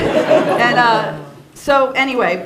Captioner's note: laughter